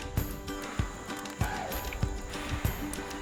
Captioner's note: blows